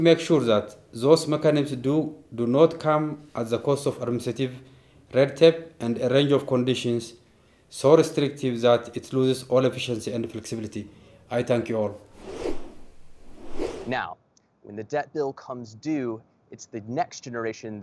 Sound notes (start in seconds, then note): 12.1 logo whooshing